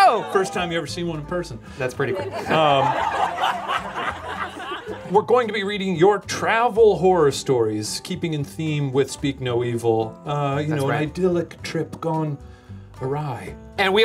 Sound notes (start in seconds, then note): 0.0 laughing; 2.0 audience laughing